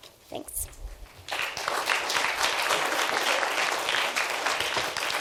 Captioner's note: applauding